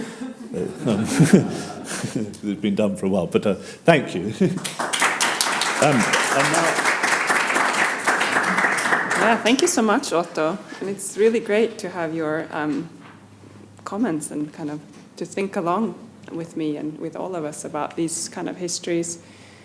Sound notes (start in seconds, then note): 0.0 audience laughs; 4.4 audience applauds